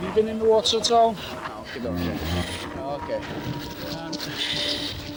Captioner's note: gasping; intense music